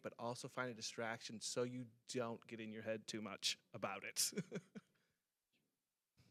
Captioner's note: chuckles